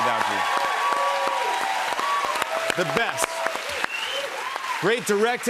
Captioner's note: cheers and applause